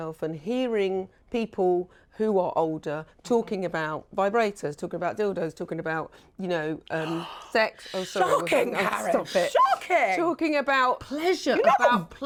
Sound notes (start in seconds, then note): 6.9 gasps